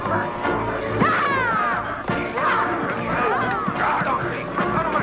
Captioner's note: Hundra shouting